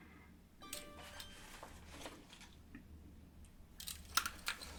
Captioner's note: phone pinging